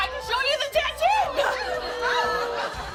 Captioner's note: laughter